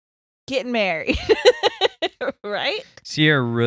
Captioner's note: laughing